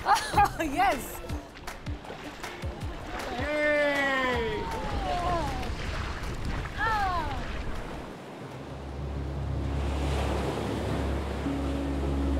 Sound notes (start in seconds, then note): 3.2 cheers